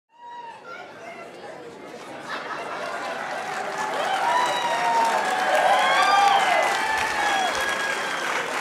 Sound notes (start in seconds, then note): 0.0 crowd cheering; 2.5 applause